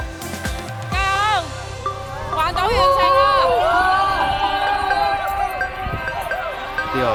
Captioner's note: cheering